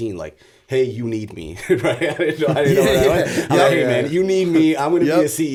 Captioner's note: chuckle